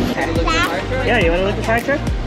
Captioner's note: exclaims